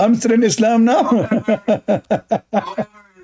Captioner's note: Ketawa